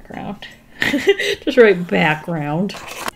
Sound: laughs

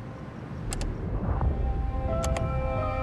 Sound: dimmer switch off

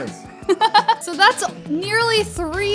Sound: laughs

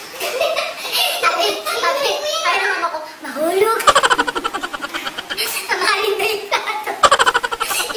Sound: laughs

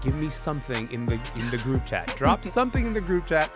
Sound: laughing

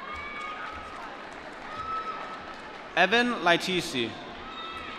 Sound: applause

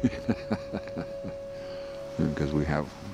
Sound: laughing

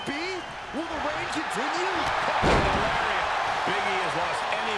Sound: applause

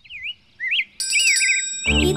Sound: ringing sound

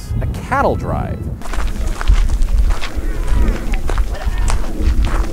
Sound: rocks crunching

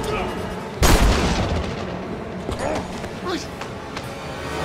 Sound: tense music; gun blasting

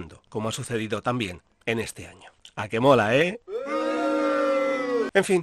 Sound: sound of booing

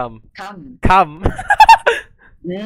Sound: laughing

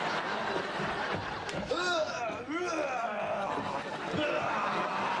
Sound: monstrous snarling

